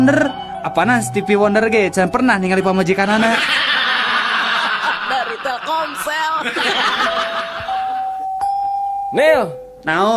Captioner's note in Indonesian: tertawa